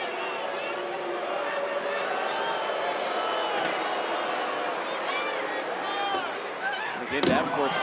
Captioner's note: crowd boos